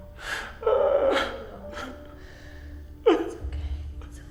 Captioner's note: soft piano music; David crying